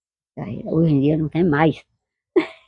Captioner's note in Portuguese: risos